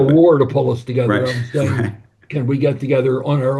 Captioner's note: laughs